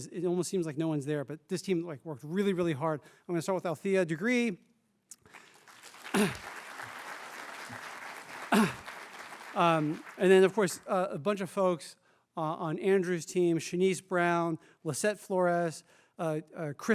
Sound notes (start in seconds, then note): 8.3 applause